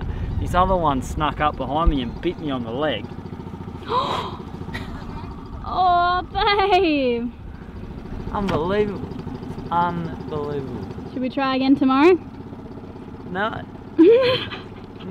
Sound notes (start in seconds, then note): 3.8 gasps; 14.0 laughs